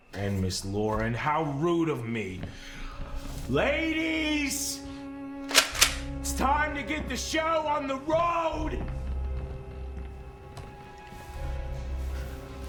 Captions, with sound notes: And Miss Loren, how rude of me. Ladies. (shotgun clicks) It's time to get the show on the road. (suspenseful music)